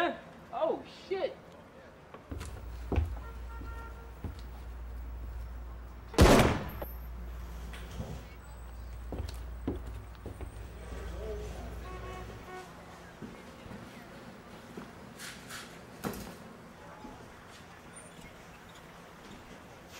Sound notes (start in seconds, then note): 6.1 gunshots